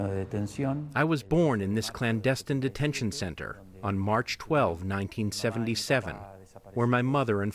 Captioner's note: speaking spanish